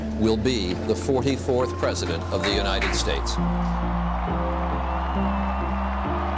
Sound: crowd cheering loudly

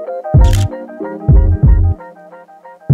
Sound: camera shutter clicks

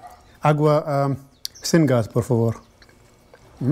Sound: speaking in Portuguese

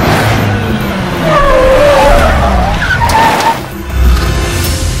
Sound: brakes squeak

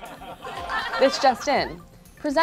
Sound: audience laughing

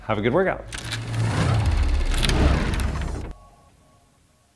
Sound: cogs whirring

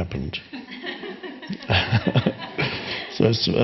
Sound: audience and Eckhart laughing in unison

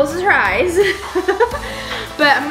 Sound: laughs

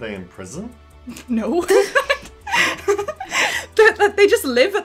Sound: giggling

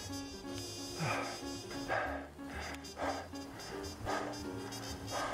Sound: panting for breath

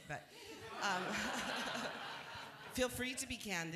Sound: laughter

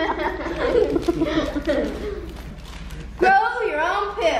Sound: children laughing

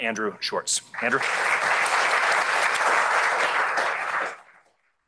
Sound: applause

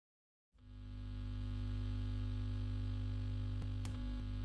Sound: amp buzzing

